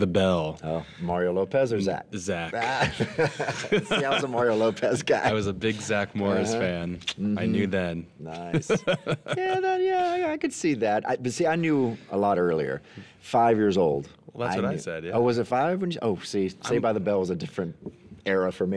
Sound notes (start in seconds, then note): 2.6 both laugh; 8.4 laughs